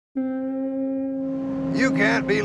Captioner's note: ship horn blowing in distance